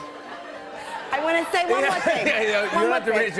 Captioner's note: laughs